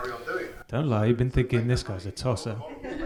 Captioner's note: murmurs; audience laughs